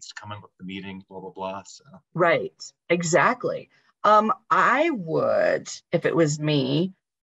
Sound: talking

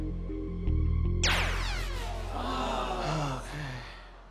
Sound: zap, audience groans; sighing

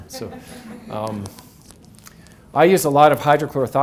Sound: audience laughs

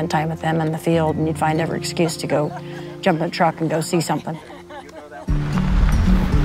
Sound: laughs

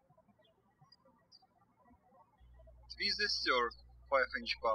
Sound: birds chirping

